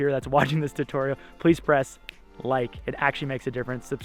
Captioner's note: clicks fingers